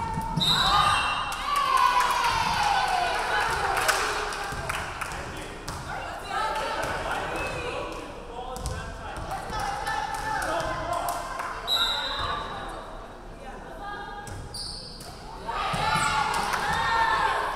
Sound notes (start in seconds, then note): 0.1 crowd cheering; 0.4 referee whistling; 11.7 referee whistling